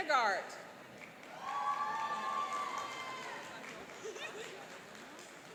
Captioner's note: cheering and applauding